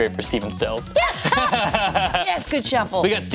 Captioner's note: laughing